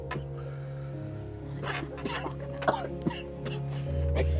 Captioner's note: coughing